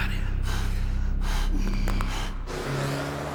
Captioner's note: bones crack